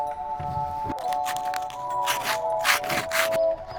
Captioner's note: ice scrapping